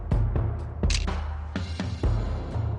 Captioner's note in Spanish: Click